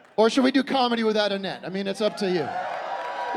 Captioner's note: scattered cheering